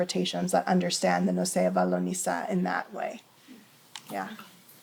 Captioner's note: hebrew